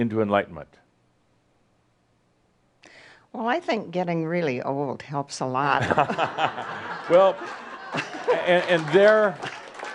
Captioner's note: laughter and some applause